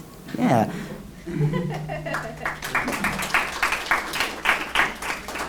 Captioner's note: laugher and applause